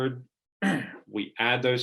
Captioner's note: clearing throat